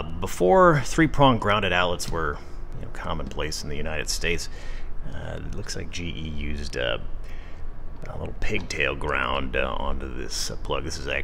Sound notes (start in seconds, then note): none